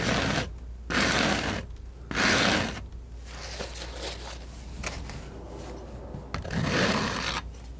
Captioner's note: scratching; scratching